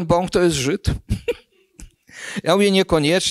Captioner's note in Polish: śmiech